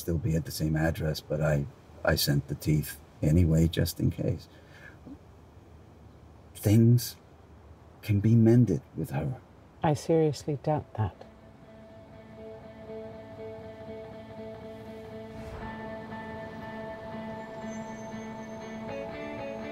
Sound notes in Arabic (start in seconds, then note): 11.2 موسيقى هادئة; 15.4 ضوضاء المدينة